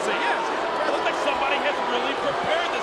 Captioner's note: audience booing